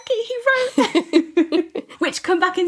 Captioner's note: laughter